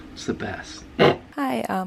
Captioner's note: snorts